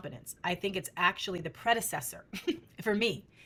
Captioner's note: chuckles